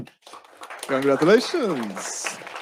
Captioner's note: audience applauds